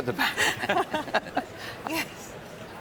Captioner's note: they laugh